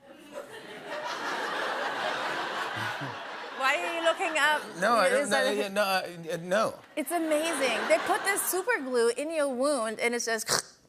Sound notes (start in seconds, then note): 0.1 laughter; 5.3 stammers